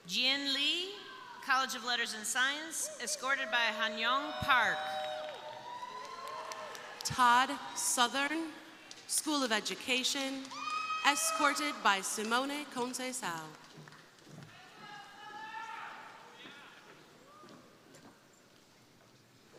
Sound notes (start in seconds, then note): 4.1 crowd applauding; 5.0 crowd cheering; 13.4 crowd applauding